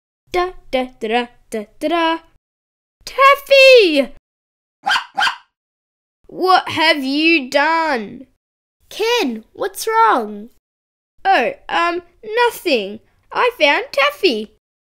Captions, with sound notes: Da, da, da da-daaaa... Taffy!!!!! (Taffy barks) What have you done!!! Ken! What’s wrong? Oh, umm...nothing I found Taffy!